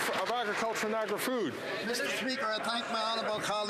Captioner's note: some Applause